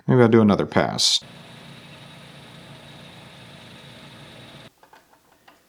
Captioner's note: machinery whirring